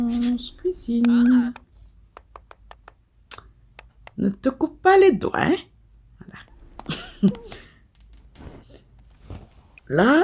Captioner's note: laughs